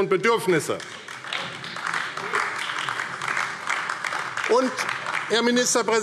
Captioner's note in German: Beifall AfD